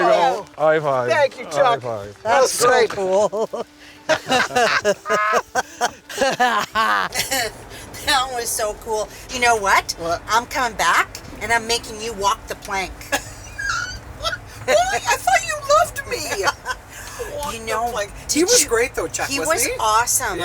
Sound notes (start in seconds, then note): 4.0 laughter; 13.0 laughing